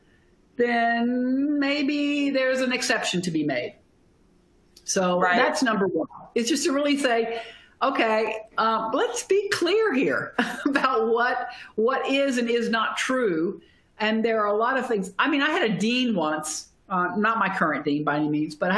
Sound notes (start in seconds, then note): 10.4 laughter